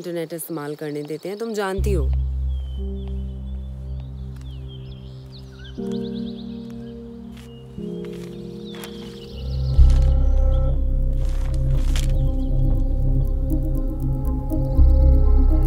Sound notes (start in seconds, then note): 2.4 Birds chirping; 3.0 Footsteps; 7.9 Paper ruffling